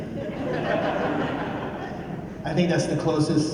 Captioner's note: laughter